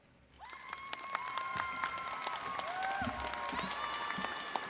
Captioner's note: crowd cheering and applauding